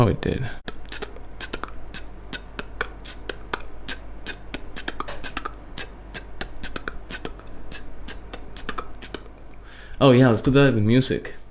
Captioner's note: beatboxing